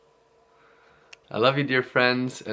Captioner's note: deep breaths